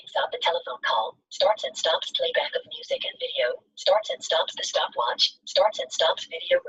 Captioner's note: system voice